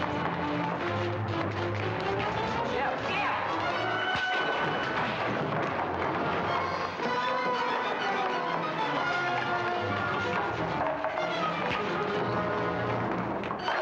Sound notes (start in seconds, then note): 0.3 dramatic music; 4.3 thud; 6.7 scuffling